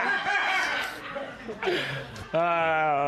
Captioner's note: laughter